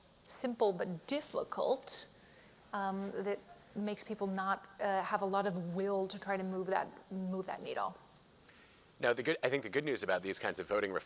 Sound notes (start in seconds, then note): none